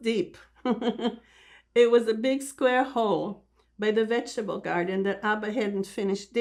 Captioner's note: laughing